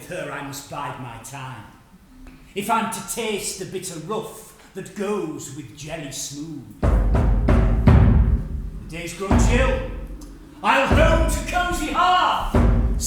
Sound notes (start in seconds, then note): 6.9 thunder